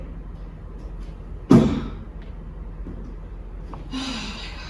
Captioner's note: thump